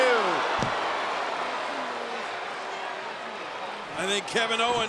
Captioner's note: audience chattering